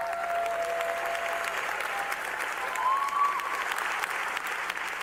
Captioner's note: cheers and applause